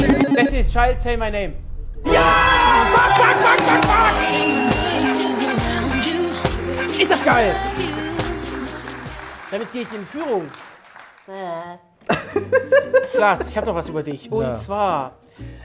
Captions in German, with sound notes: Destiny's Child, "Say My Name". Jaaa! (Lebhafte Musik) Ist das geil! Damit geh ich in Führung. Wä. (Hohes Lachen) Klaas, ich hab noch was über dich, und zwar: